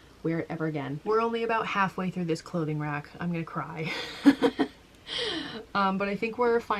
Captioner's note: laughing